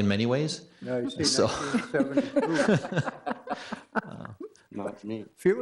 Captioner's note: laughs